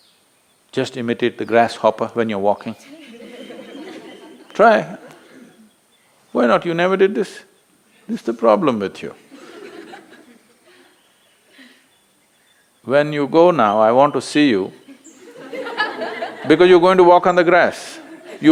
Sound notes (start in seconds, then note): 2.8 laughter; 9.1 few laugh; 14.8 laughter; 17.8 laughter